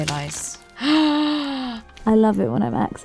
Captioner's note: gasps!